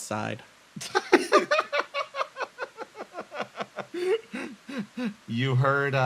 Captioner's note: laugh